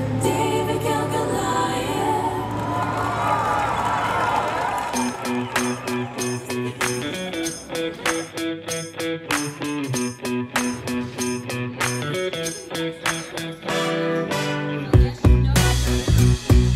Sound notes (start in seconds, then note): 1.9 people cheering; 5.0 upbeat music